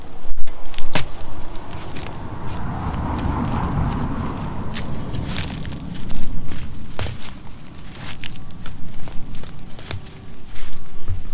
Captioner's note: digging sounds